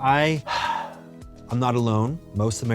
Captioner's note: sighs